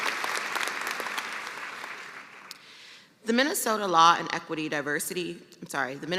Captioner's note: cheers and applause